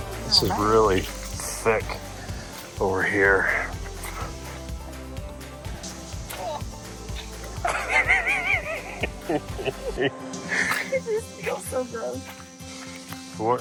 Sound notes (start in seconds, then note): 7.6 laughs